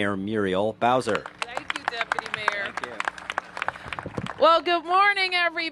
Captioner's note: applause